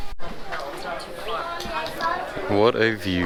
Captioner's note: crowd talks indistinctly